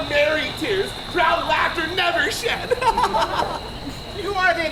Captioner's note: laughs